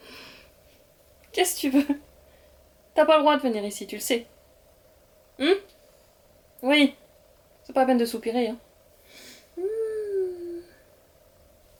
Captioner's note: speaking in french